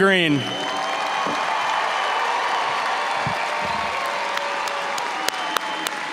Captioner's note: audience cheering and applauding